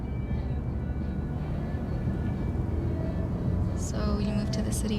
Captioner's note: traffic buzzes